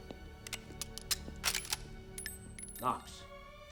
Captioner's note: gun clicks; shell clinking